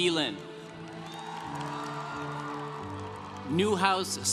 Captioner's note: congregation cheering